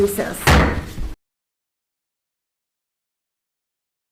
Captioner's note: gavel bangs